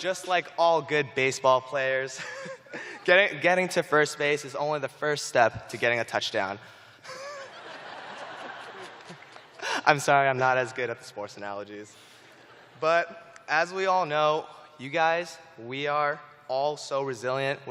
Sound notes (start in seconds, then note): 0.0 chuckling; 7.0 laughter